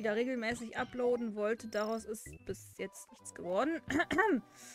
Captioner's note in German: cough